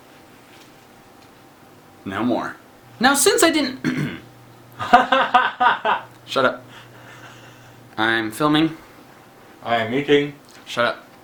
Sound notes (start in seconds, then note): 4.8 laughter